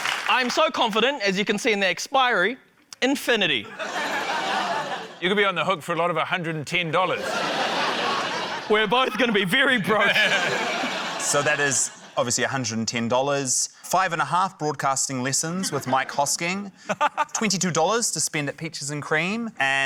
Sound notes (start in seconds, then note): 7.1 laughter